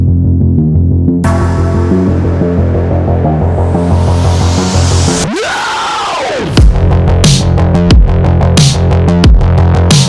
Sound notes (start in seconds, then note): 1.2 upbeat music; 5.3 screams